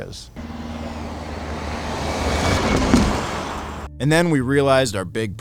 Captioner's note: car speeds